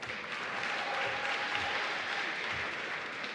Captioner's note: applause